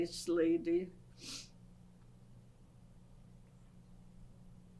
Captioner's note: pauses for 6 seconds